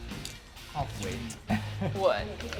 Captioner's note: laughs